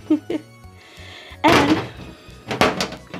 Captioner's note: laughing